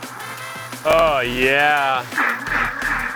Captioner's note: blender grinding